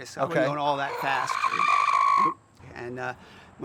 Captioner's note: rooster yells